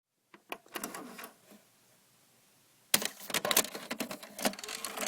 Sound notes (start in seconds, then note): 1.0 vhs tape enters vcr